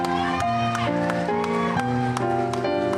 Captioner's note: cheering